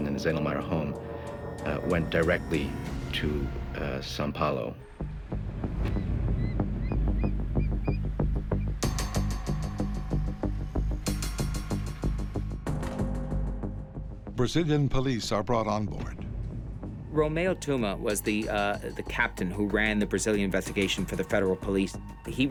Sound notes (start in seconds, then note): 5.3 suspenseful music; 5.9 birds shrieking